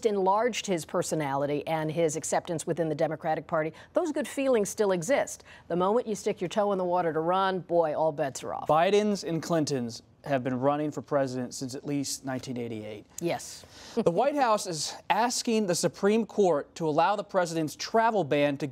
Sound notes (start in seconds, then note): 14.3 laughs